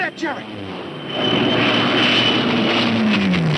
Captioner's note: plane whooshing